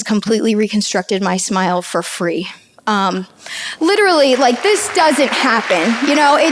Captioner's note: audience applauds